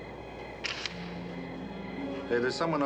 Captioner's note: clicking